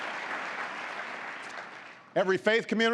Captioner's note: applause